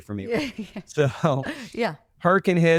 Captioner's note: both laugh